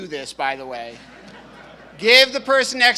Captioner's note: audience laughing